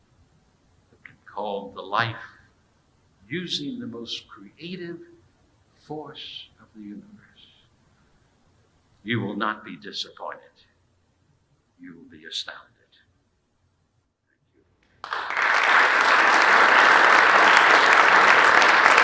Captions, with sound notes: that can be called the life, using the most creative force of the universe. You will not be disappointed. You will be astounded. (audience applauding)